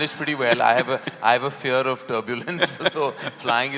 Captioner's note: both laugh